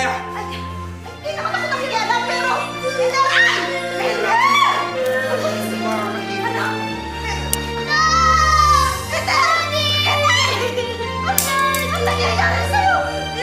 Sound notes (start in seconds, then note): 1.1 shrieks; 8.0 sobbing